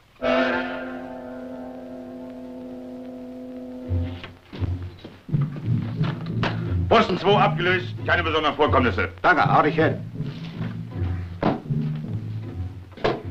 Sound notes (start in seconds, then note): 0.2 vintage music; 6.7 foreign language